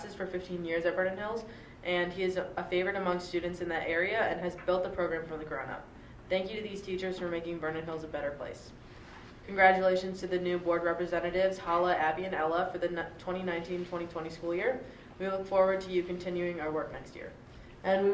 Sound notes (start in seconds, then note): none